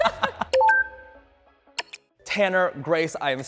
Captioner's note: electronic clicking